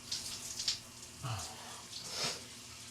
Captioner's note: water splashes; sighs; sniffs